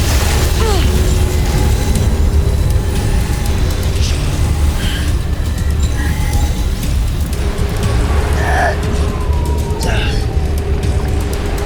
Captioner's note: weapons whoosh; sparkling whoosh, enchanting chimes; powerful whoosh-crackle